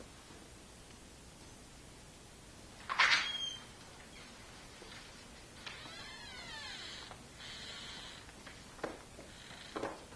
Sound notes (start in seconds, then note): 2.9 door